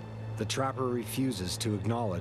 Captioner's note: voiceover